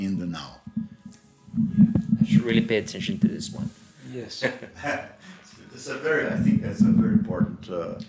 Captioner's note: laughters